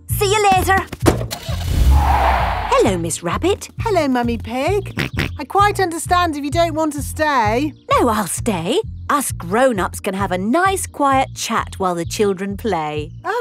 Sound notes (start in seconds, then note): 1.4 car starting; 1.4 tires screeching; 5.1 snorts